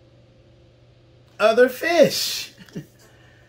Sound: laughs

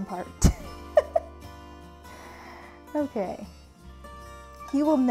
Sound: giggling

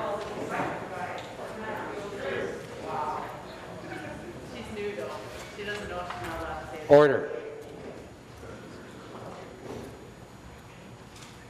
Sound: conversation din

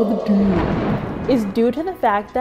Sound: thunder rumbles

